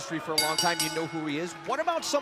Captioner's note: bell ringing